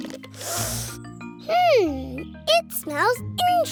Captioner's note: sniffs